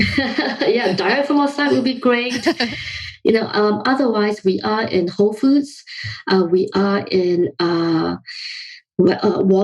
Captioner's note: laughs